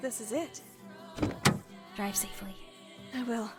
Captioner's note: window rolls down; car door closes